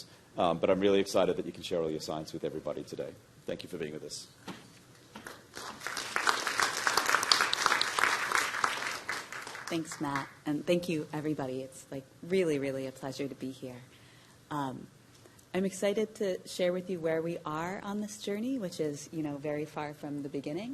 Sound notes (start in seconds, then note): 8.8 applause